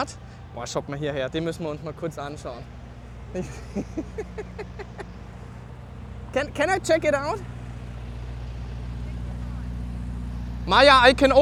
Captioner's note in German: gelächter